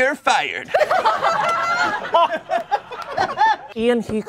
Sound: laughter

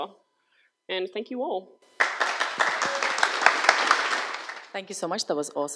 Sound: crowd applauds

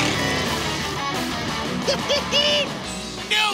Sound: laughing

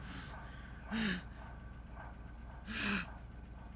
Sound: gasping for air

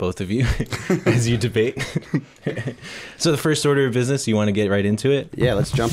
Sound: chuckle

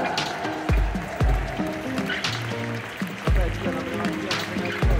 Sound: applause; ♫ Midtempo guitar music ♫

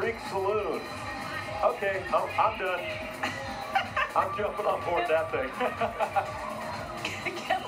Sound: laughter

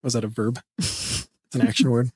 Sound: laughs

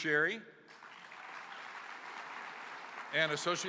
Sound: applause

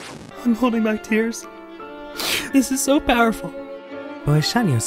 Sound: sniffles

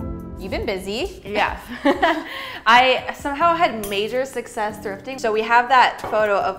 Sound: nervous laugh

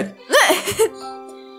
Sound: laughs

